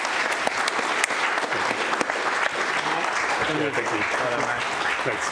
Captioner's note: applause